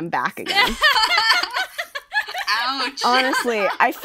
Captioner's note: laughter